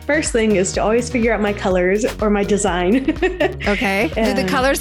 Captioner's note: laughs